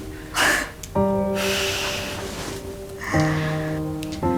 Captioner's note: chuckling